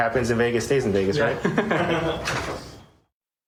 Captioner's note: laughter